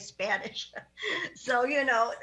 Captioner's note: laughs